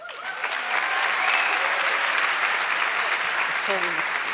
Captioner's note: audience clapping